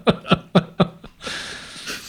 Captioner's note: both laughing